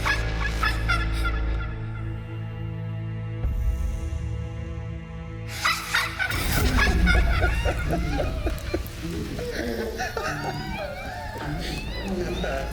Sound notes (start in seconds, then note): 7.5 victims groaning; 8.9 Andre laughing; 12.4 victims groaning